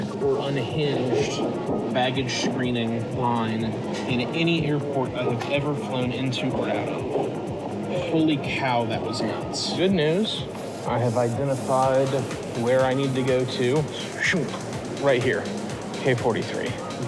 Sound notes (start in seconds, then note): none